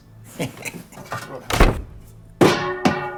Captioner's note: chuckles